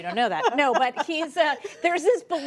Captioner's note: laughter